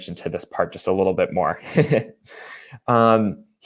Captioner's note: chuckles